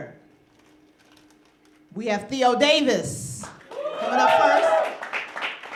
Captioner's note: applause